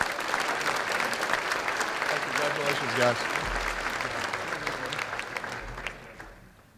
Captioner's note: applause